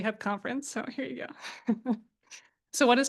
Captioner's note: chuckles